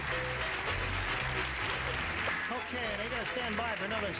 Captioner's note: audience applauding